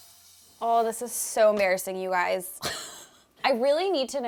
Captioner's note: laughing